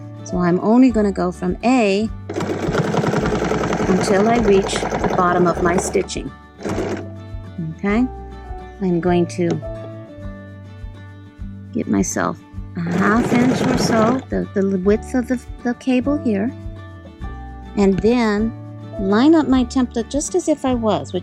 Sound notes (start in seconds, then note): 2.3 machine whirring